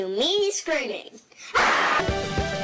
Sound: proceeds to scream

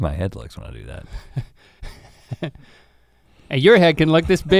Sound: chuckles

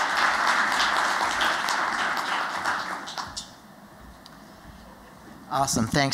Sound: applause

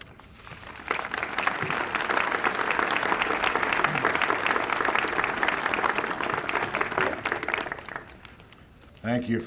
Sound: applause

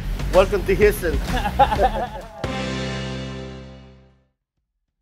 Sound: laughs

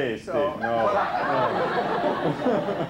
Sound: laughter

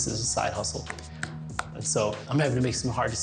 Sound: hand thudding

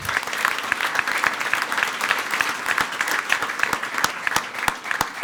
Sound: everyone applauding

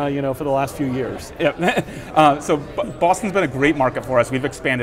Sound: chuckles

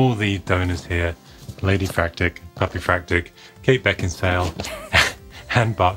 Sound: laughs

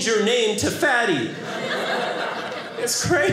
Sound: audience laughing

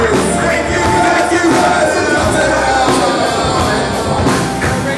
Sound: echoed

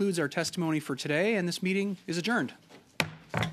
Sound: thunk

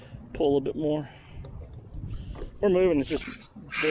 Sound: light splashing sounds, very light wind

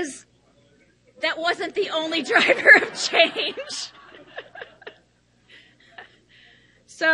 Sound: all laughing

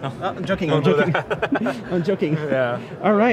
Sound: laughs

